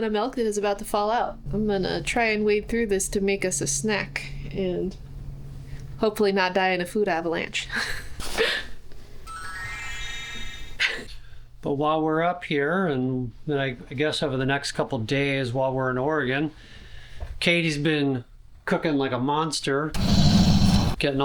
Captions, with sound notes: and a gallon of milk that is about to fall out. I'm gonna try and wade through this to make us a snack and hopefully not die in a food avalanche. (laughing) But while we're up here, and then I guess over the next couple of days while we're in Oregon, Katie's been cooking like a monster,